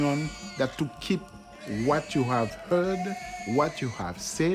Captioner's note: people screaming